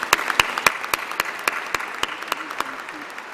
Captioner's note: applause